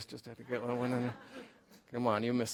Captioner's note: laughter